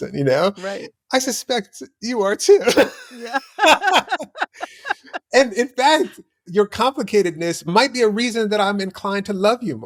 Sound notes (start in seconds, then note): 4.4 laughter